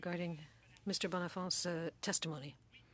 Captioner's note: speaking French